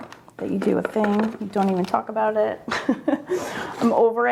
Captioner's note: laughs